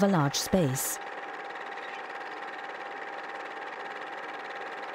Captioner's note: rattling